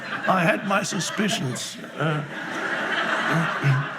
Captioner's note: laughing